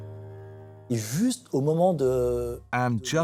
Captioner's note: non-english speech